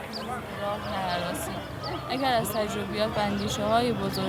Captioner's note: woman reads aloud